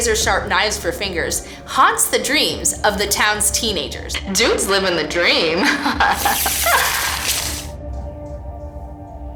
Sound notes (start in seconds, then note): 5.4 giggles; 6.1 slicing sound